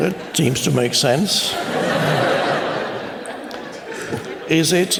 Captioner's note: laughter